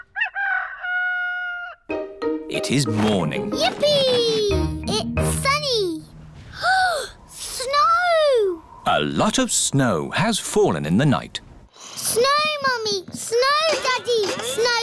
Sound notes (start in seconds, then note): 0.0 rooster crowing; 6.5 gasps